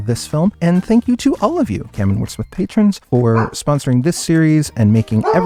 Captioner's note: bark!; barrrrkkkkkk!!!